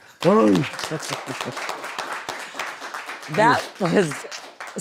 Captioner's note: audience applauds